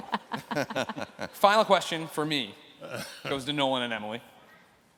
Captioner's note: laughter